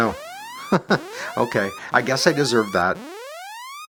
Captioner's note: chuckles